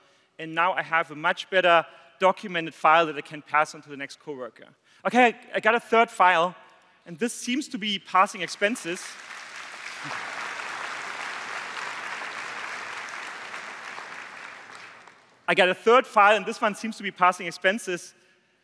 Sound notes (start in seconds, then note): 10.0 applause